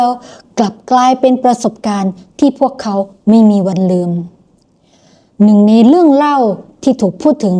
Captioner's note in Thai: เสียงสูดหายใจ